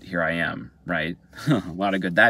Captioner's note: laughing